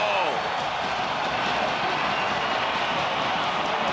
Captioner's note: crowd cheers